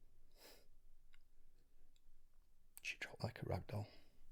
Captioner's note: Shaun sniffles softly